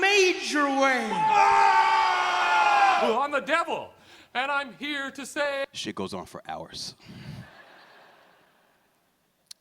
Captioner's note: laughter